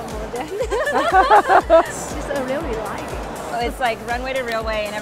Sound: laughs

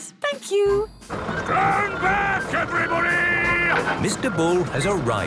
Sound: shouting

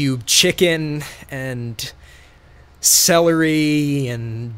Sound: none

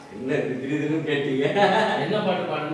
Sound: laughter

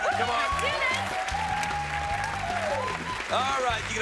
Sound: cheers and applause

